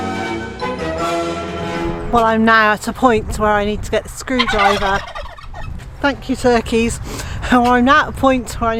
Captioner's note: sound of turkeys calling